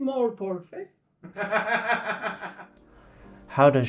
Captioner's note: laugh